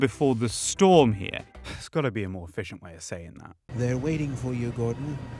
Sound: sigh

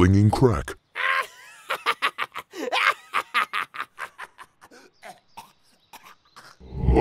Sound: coughing

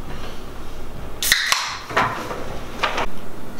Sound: can cracks open

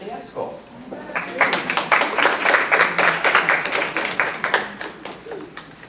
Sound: applause

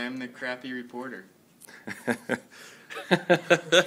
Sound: laughing

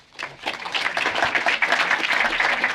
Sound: applause

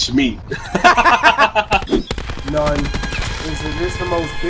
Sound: laughing

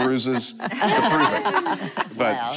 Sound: laughing

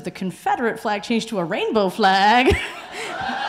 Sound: laughs; audience cheering

